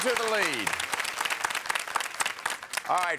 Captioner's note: audience applauds